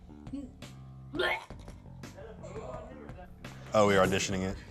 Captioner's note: gags